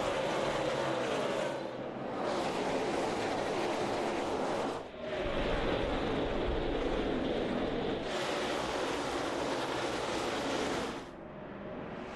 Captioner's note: engines roar